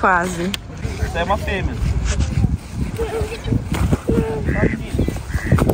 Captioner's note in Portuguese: som de patos